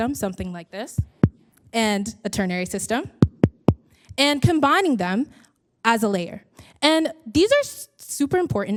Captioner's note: tap tap tap; tap- tap